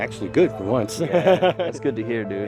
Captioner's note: laughs